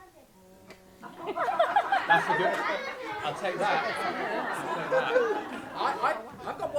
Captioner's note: laughter